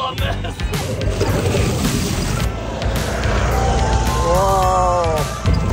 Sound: engine whirring

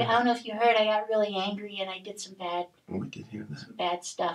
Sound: quietly

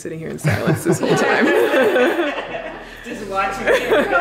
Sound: laughing

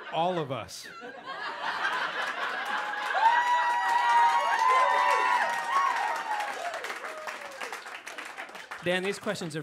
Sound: crowd cheering

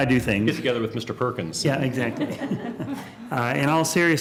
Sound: laughter

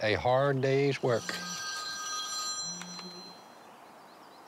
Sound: phone ringing

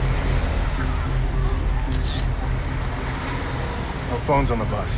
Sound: camera snapping

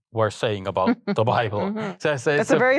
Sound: interviewer laughs

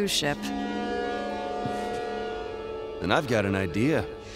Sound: ship horn sounding

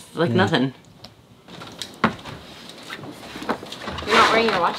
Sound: floorboards creaking

